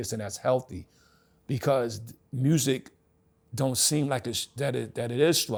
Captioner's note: none